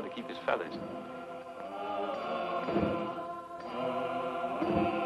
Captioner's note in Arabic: الناس يهتفون